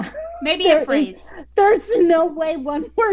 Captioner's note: laughing